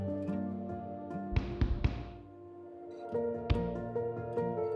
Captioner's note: gloves bumping